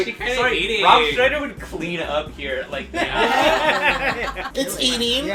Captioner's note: laughter